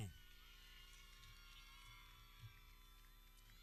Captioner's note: people cheering